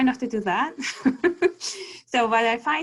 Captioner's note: giggle